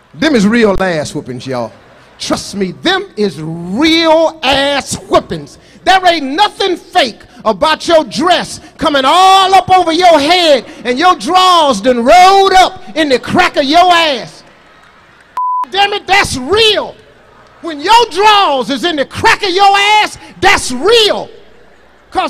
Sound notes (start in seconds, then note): 15.3 beep